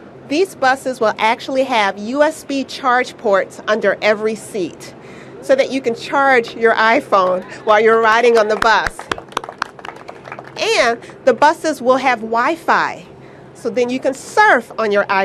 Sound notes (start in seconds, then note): 8.2 applause